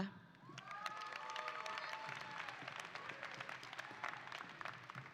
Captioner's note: audience applauding